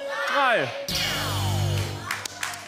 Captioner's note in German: Applaus